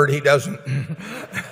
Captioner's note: laughter